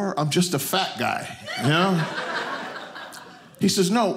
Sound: audience laughing

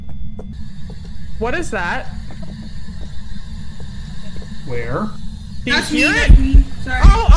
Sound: static noise from spirit box; heart beat & eerie breathing begin again

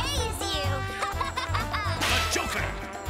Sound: laughing

